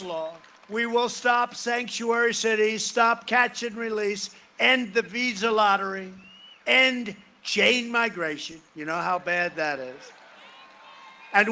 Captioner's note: cheering and applause